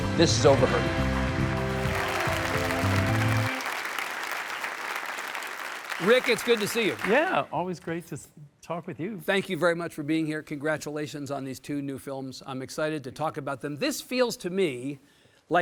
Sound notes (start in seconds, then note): 0.4 audience applauds